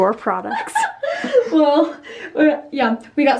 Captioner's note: laughing